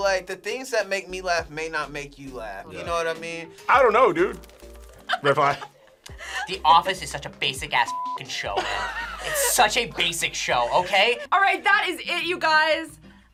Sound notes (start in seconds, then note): 5.0 React laughs